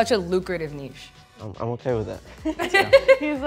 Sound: laughing

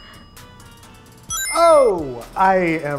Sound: timer dings; bright chime rings

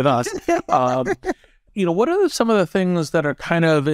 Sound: laugh

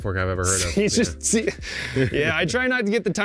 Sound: both laugh

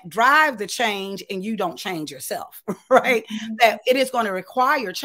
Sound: chuckles

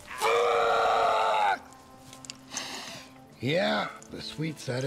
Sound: shouts

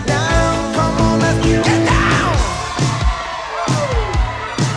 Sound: cheering

